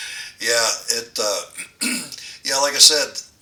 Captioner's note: laughs